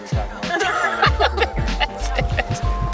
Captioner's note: laughter